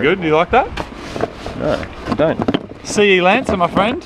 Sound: rustles and clatters

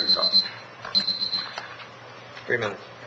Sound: alarm beeps

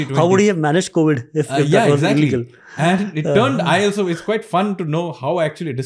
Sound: chuckles

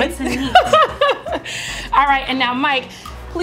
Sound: laughs

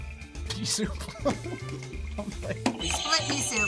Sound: laughs; buzzer rings

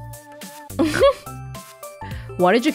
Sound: chuckles

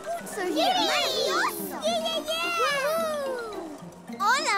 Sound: cheering

